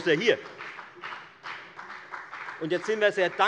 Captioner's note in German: Beifall bei der FDP